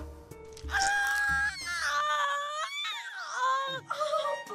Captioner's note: Lucia screams